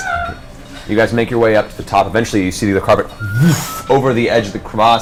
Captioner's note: whoosh